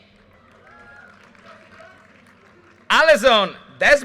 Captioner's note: audience cheers and applause